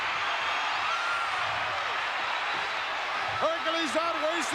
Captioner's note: crowd cheering